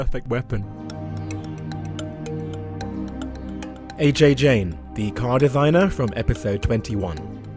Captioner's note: voiceover